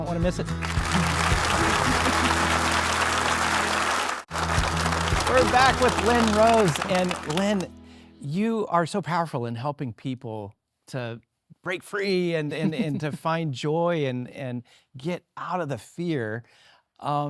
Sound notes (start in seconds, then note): 0.6 audience applauding; 1.1 bright music; 5.3 audience applauding